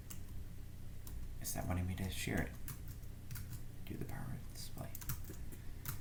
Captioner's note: sound of typing